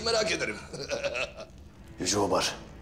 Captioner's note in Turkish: Gülme sesi